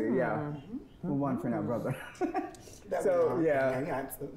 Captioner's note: laughs